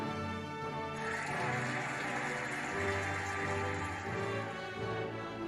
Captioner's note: cheering and applauding